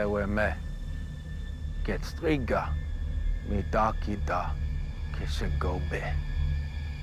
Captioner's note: speaking in foreign language